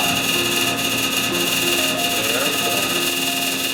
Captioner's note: laser sounds